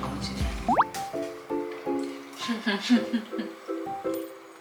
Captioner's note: laughs